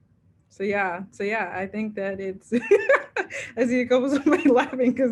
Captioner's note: laughs